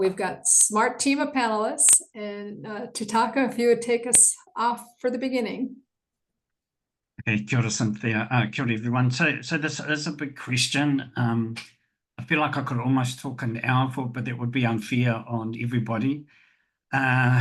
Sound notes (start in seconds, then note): 7.2 foreign language 00:07:01; 8.5 foreign language 00:07:03